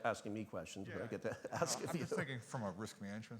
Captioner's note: laughing